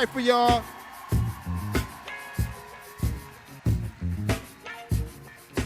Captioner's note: audience cheering